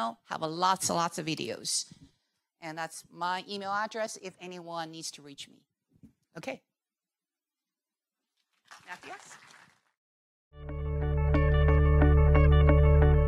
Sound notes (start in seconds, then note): 8.6 audience applauds; 10.6 upbeat music